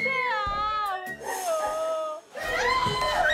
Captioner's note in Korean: 울먹이는 목소리 뒤로